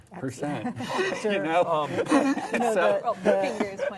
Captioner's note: laughs